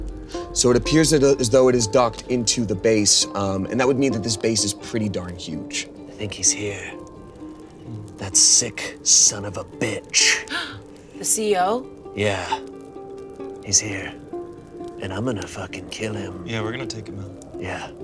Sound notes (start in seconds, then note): 10.3 gasps